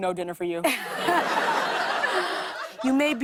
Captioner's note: laughter